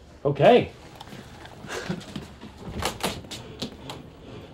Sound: chuckles

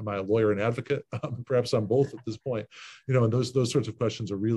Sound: laughs

